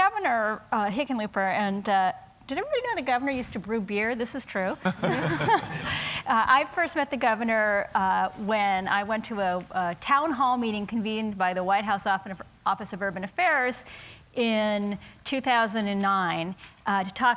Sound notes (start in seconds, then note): 4.8 laughter